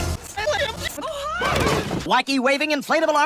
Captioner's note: in Matilda's voice